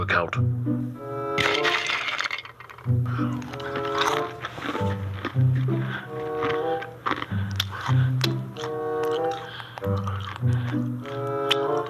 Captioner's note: loud chewing of crackers